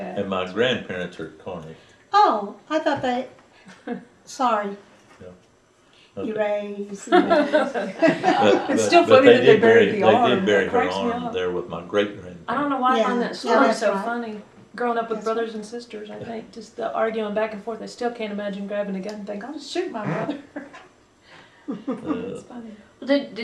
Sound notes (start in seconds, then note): 3.7 laughter